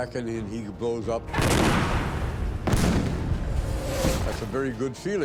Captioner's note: tanks exploding